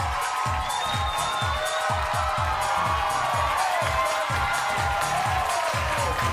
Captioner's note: audience cheering and applauding; bass-heavy music